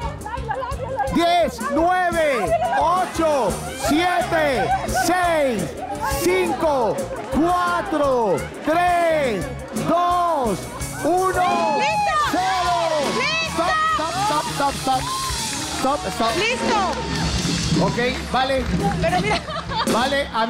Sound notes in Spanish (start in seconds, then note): 14.0 Aplausos